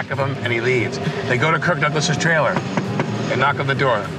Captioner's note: knocking